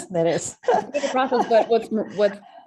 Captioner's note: laughs; chuckles